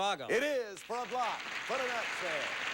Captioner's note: audience applauding